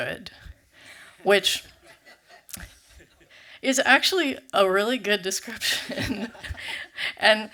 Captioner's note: laughs